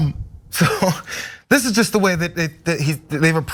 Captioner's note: laugh